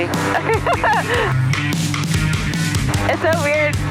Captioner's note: laughing